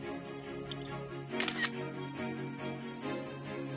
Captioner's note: camera shutter sound